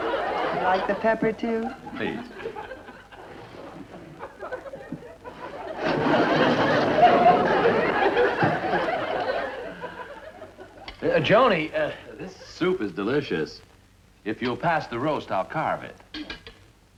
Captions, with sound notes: Would you like the pepper too? - Please (loud sliding) - Joanie, this soup is delicious. If you'll pass the roast, I'll carve it.